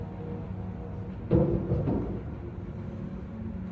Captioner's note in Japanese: ドアをノックする音